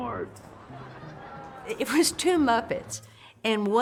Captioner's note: laughter